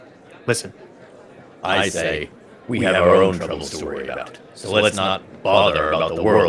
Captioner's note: loudspeaker